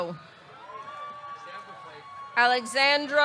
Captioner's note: audience cheering